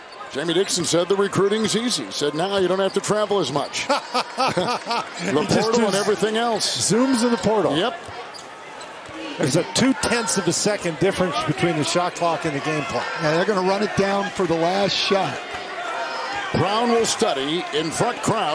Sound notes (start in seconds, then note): 3.8 laughter